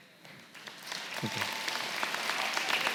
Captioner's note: applause